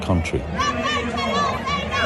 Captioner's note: crowd cheering